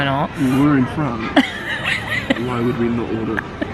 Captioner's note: laughs